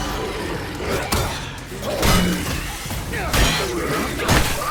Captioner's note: zombie grunting; metal clanking